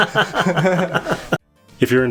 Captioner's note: laughing